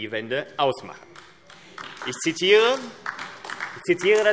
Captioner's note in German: Beifall AfD